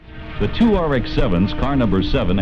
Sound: engine sounds

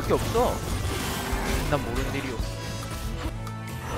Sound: scratching

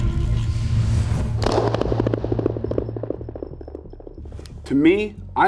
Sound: gun shot

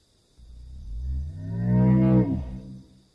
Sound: growling

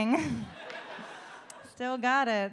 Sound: audience laughs

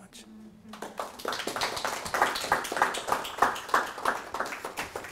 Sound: audience applauding softly

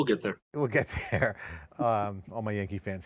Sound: both laugh

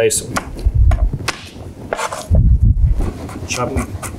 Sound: knife cutting

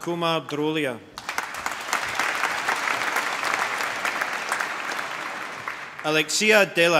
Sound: applause

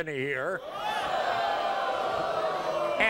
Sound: audience boos

